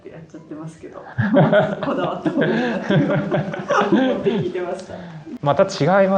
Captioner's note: laughs